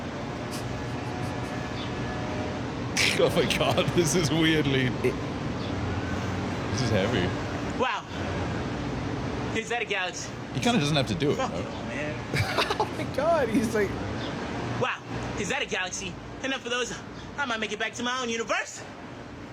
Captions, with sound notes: Oh my God, this is weirdly... - This is heavy. - Wow. - Is that a galaxy? Fuck, man. - He kinda doesn't have to do it, no? (laughs) Oh my God, he's like... Wow, is that a galaxy? Enough of those, I might make it back to my own universe!